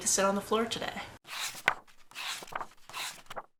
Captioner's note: pages turning